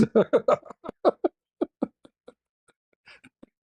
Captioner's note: ketawa